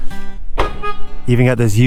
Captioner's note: truck door banging